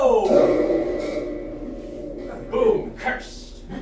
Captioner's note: spooky sound effect